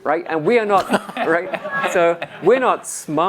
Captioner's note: audience laughs